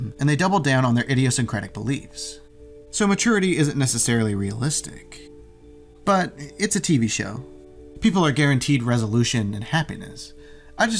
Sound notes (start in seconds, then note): none